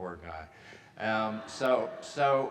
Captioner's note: audience laughing